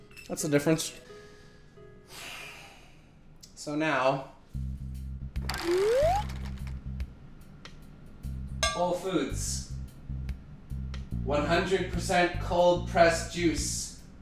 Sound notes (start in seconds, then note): 2.1 deep sigh